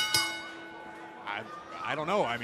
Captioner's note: bell ringing